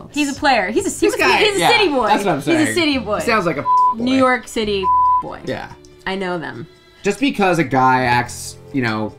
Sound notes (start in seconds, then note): 4.8 beep